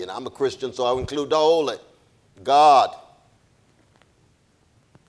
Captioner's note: speaks in a foreign language